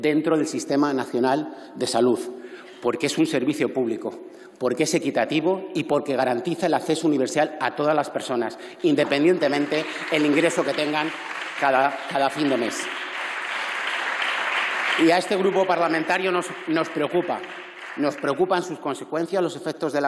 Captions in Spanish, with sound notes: dentro del Sistema Nacional de Salud, porque es un servicio público, porque es equitativo y porque garantiza el acceso universal a todas las personas, independientemente del ingreso que tengan cada fin de mes. (Aplausos). A este grupo parlamentario nos preocupa, nos preocupan sus consecuencias, los efectos de